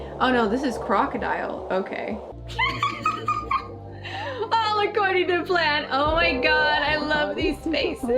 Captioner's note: laughs